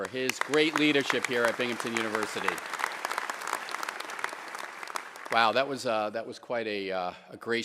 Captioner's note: applause